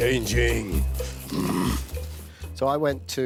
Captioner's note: grunts!